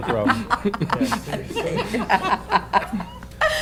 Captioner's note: laughter